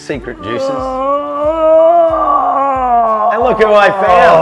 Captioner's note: groaning